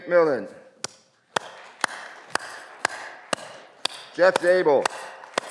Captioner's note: audience clapping